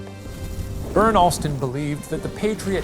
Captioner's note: thunder crashing